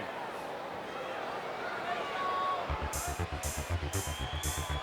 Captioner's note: crowd chatter